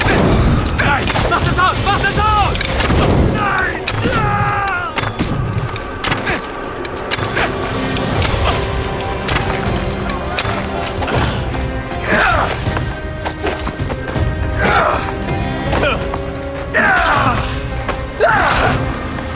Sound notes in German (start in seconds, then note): 0.0 schreien; 7.6 schreien; 9.5 stöhnen